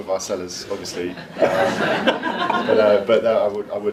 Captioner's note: audience laughs